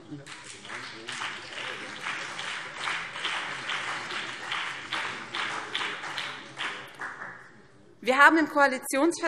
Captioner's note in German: Beifall BÜNDNIS 90/DIE GRÜNEN und vereinzelt CDU